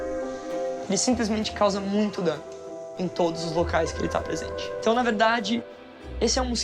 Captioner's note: speaks in foreign language